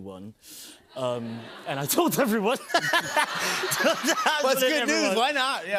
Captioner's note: laughs